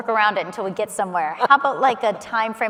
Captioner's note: laughing